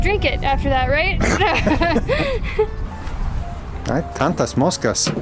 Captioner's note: both laughing